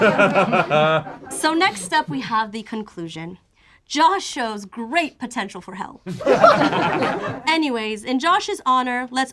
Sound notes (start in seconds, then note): 6.0 group laughs